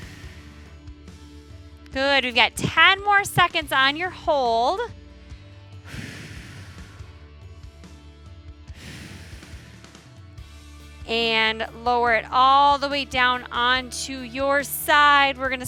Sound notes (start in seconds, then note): 5.8 exhaling; 5.8 upbeat music continues